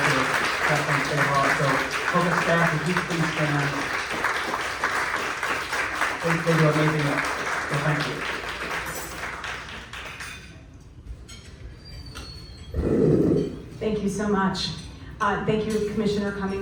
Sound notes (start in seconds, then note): 3.4 clapping